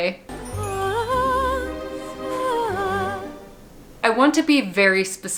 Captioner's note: tender human vocalization